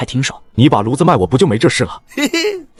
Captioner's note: chuckles